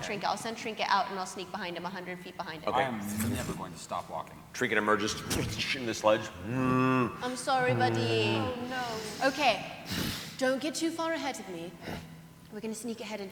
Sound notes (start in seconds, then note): 4.6 impact; 6.2 moans